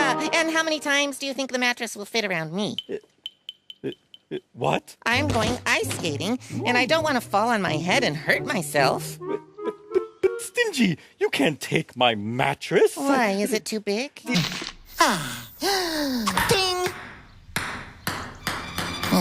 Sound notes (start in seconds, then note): 14.9 inhale